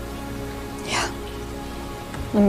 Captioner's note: whispering